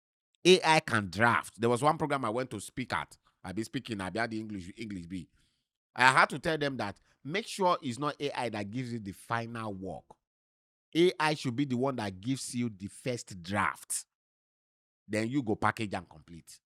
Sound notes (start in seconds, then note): none